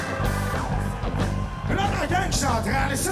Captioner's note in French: cris d'enthousiasme